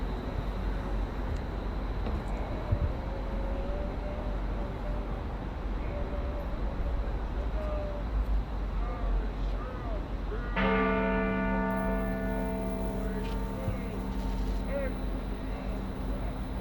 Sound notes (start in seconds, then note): 10.5 bells toll